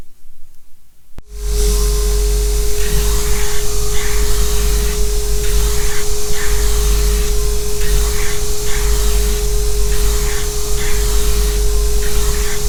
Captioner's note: grinding